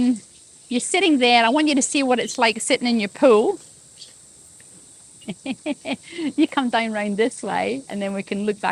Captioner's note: laughs